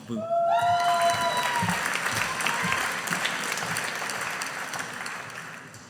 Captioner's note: audience applauding